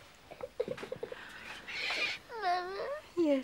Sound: crying

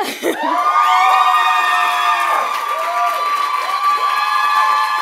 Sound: loud cheers and applause

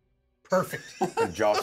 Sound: speaker laughs

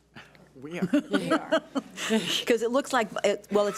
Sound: laughs

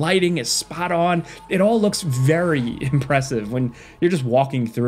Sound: laughs

